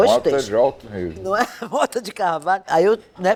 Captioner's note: laughter